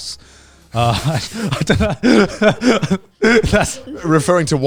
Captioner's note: everyone laughing